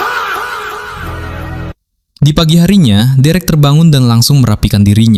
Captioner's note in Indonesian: berteriak